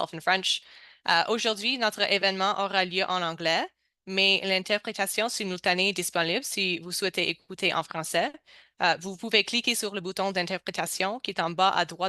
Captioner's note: speaking french